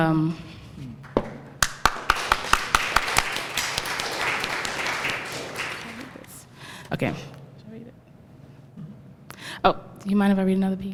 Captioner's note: applause